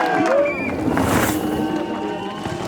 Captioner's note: dramatic music; cheering; bike whooshing